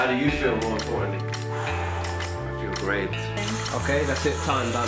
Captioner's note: deep breath